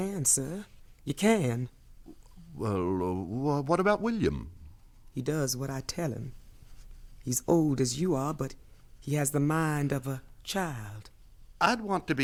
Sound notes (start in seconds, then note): none